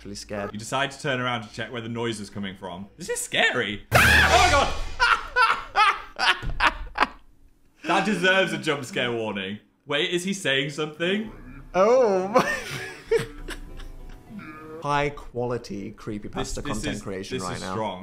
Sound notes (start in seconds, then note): 3.9 Phil screams; 4.2 Dan laughs; 12.2 Dan laughs